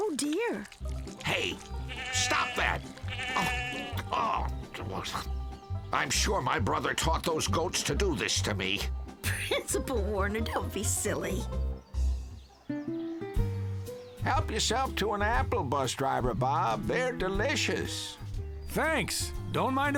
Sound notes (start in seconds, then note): 1.8 bleating; 3.1 grumbles